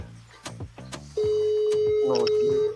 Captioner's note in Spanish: Tono de llamada